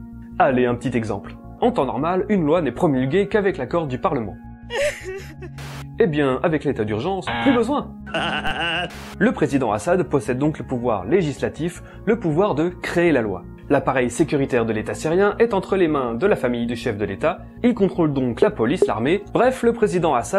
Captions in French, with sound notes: allez un petit exemple en temps normal une loi n'est promulguée qu'avec l'accord du parlement Eh bien avec l'état d'urgence plus besoin ! *Ahahah* Le président Assad possède donc le pouvoir législatif, le pouvoir de créer la loi. L'appareil sécuritaire de l'état syrien est entre les mains de la famille du chef de l'état et il contrôle donc la police, l'armée bref le président Assad